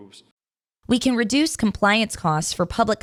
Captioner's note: voiceover